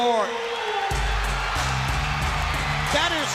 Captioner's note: crowd cheering